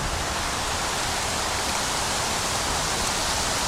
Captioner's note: wind Blowing